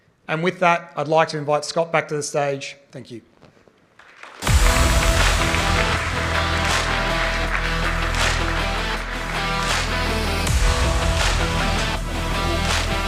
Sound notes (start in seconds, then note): 3.9 applause